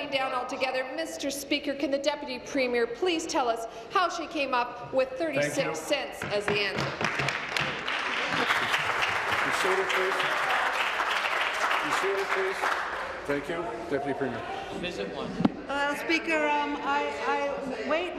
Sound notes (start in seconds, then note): 11.4 applause